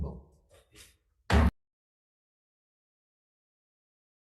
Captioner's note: gavel slams